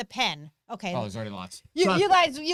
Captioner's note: murmurs